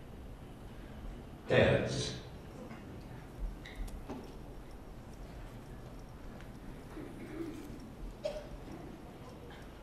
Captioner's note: computer voice